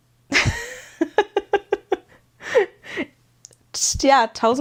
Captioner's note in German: gelächter